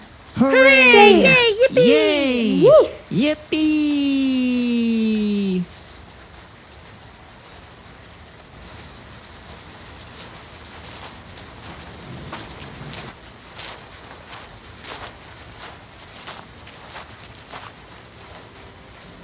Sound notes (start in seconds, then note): 0.3 cheering; 7.2 footsteps in the rain